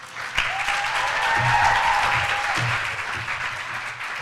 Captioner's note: applause